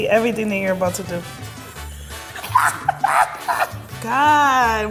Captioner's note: laughing